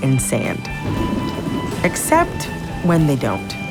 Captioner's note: thunder